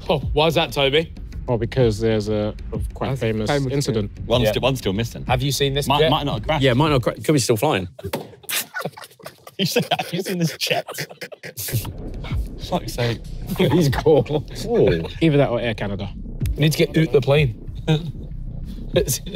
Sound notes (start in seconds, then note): 8.0 everyone laughing